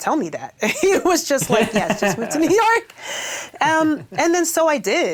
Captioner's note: laughs